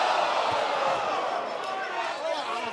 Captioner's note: crowd response